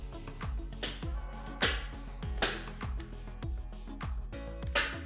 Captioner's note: stapler clicks